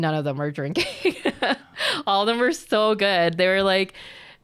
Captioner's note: laughs